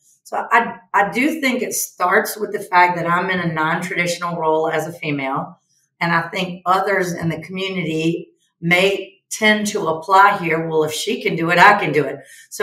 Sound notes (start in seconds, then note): none